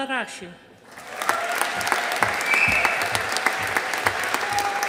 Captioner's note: audience applauding